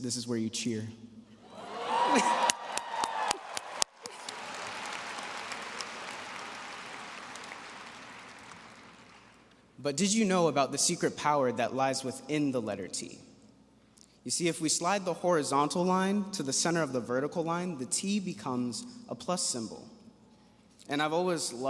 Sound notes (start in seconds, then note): 5.1 cheering and applause